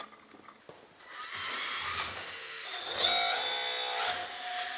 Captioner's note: gears whirring